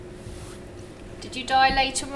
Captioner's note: fabric brushing